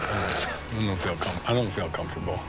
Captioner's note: laughs